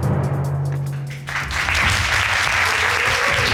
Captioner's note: audience applauding